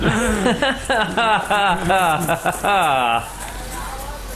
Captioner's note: laughing